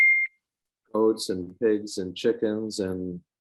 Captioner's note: phone beeping